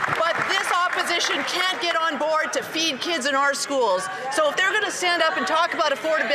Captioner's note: some Applause